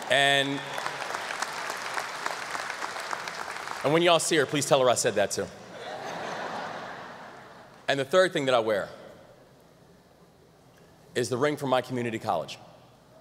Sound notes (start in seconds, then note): 0.0 audience applause; 5.7 laughter